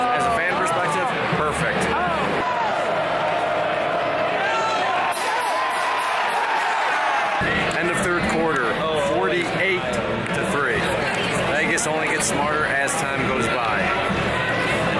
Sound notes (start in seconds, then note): 5.5 crowd cheering